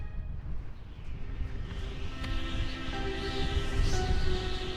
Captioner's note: somber music; wind whistling